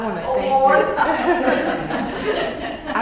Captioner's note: laugh